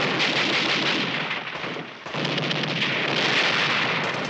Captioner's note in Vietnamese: Tiếng súng tiếp tục